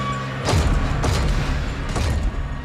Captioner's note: thudding